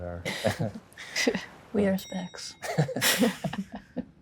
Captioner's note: laughs; band members laugh